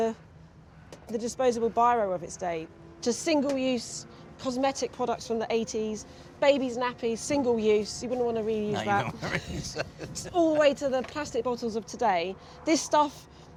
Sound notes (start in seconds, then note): 8.7 laughing